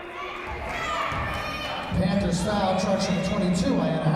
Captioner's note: yelling